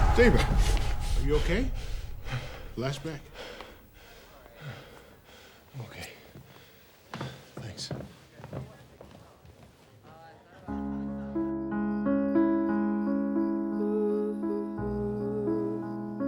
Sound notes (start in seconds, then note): 0.0 Stephen yells; 0.0 Stephen breathing heavily; 10.7 somber piano music; 11.0 vocalizing softly